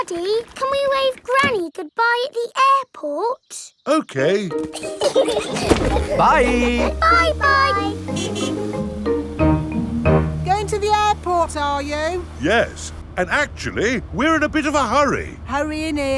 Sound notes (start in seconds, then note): 4.6 laughing; 8.2 horn honking